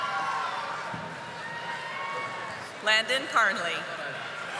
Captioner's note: audience applauding